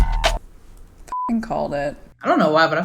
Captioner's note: beep